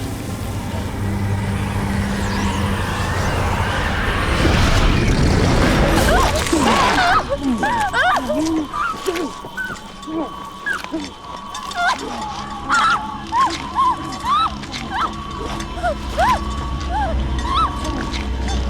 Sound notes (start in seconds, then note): 1.8 wind howls; 5.6 screams